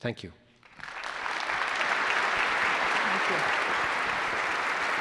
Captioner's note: attendees applause